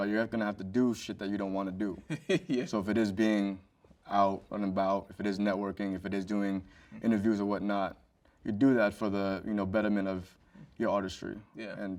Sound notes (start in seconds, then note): 2.0 chuckles